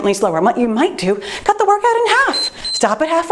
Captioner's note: timer beeps